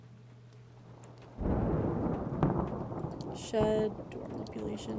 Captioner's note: thunder Rumbling